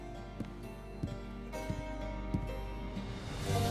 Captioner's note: footsteps